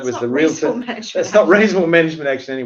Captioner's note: laughs